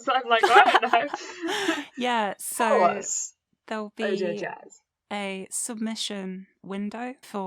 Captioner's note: laughter